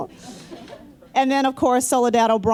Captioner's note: laughter